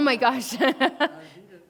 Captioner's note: laughs